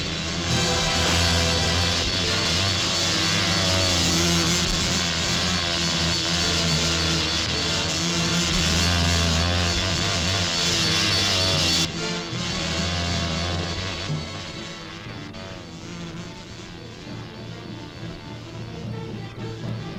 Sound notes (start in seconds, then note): 3.3 dramatic music; 3.3 wasp buzzing; 16.4 tense orchestral music